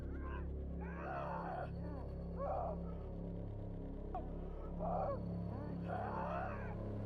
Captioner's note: Schizo screaming